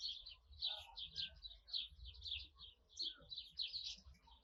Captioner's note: birds chirping